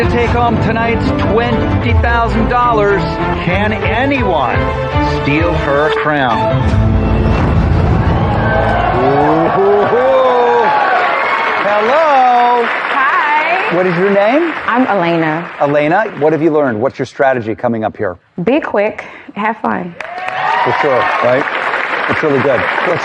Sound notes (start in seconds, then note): 7.8 audience cheers excitedly